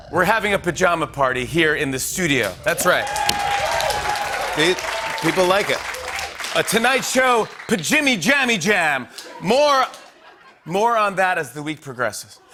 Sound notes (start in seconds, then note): 2.7 cheers and applause